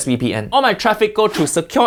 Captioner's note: air whooshing